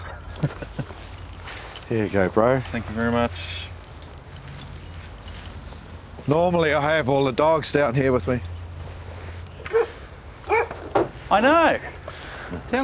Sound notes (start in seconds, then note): 0.0 laughing; 10.4 dog barking